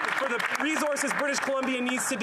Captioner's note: applause